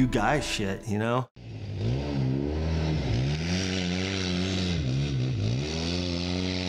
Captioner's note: off-road vehicle engine buzzing